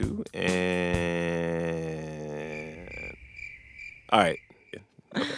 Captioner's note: soundbite of crickets chirping